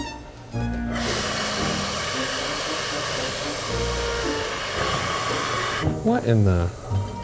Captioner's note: playful music continues; steam hissing